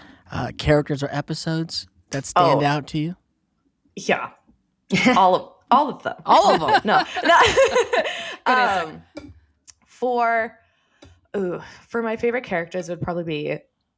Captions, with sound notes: characters or episodes that stand out to you? Yeah, all of all of them. All of them! [laughing] For my favorite characters it would probably be...